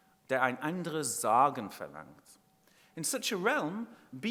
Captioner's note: speaking in foreign language